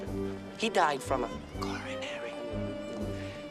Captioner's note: whispers